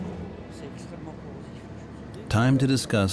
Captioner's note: speaking French